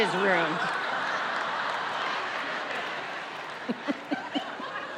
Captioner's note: audience laughs